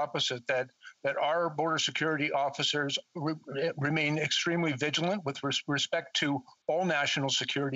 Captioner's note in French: voix de l'interprète